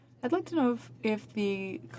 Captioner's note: speaking in french